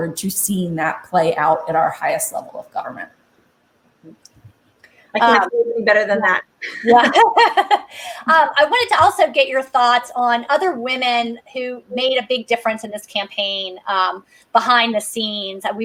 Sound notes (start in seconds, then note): 6.7 laughs